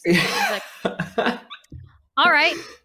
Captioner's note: laughs